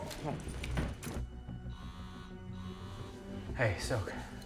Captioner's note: phone vibrates